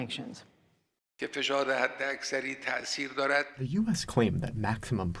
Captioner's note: through translator